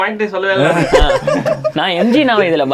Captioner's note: group laughs